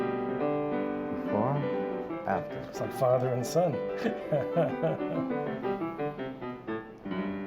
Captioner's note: laughs